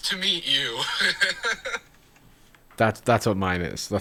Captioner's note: laughs